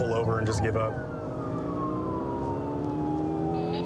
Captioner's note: siren blaring